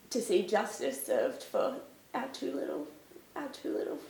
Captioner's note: none